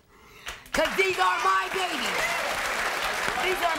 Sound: cheering

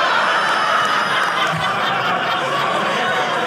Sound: audience laughing

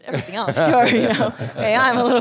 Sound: laughing

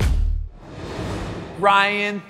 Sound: air swooshing

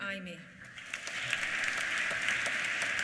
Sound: applause

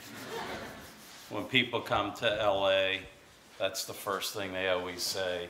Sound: laughter

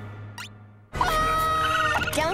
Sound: screaming

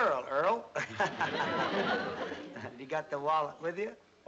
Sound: laughs

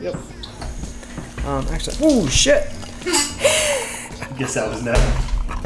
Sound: laughs

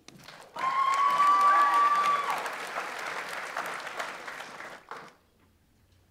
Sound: audience applauds; audience members cheer

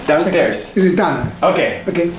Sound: speaking in Japanese

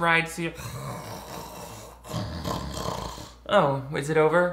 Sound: snoring loudly

